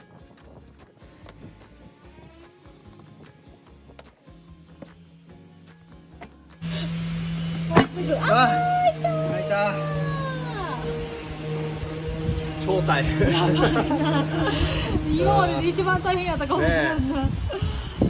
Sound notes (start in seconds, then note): 13.2 laughs